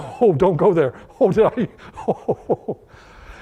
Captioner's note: laughter